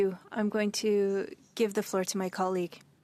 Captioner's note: speaking French